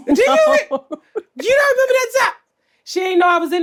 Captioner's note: laughs